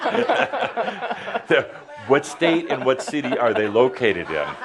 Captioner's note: laughter